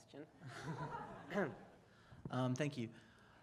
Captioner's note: audience laughter